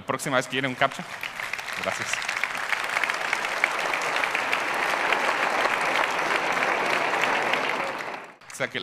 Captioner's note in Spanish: Aplausos